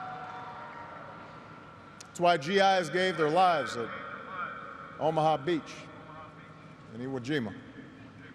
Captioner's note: cheers and applause